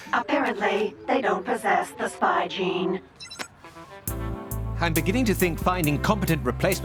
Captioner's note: none